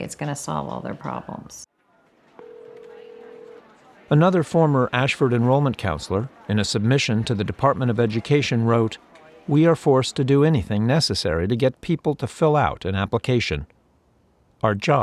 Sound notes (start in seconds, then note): 2.3 phone ringing out